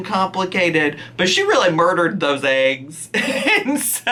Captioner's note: laughs